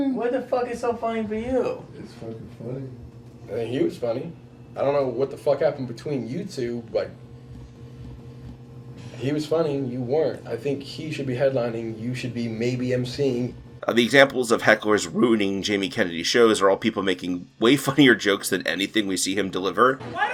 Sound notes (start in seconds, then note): 2.0 quietly; 7.2 fluorescent buzz due to director not knowing how to do noise reduction